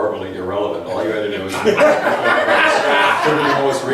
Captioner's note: laughs